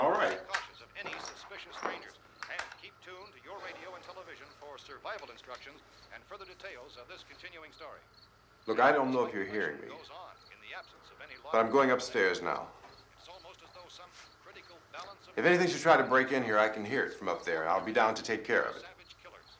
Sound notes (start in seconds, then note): 9.3 radio: announcer continues speaking